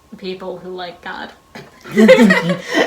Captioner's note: laughing